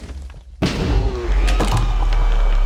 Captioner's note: ender dragon death sound